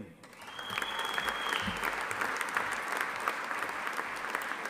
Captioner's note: audience applauding